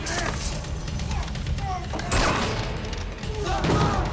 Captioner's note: dramatic music; men struggling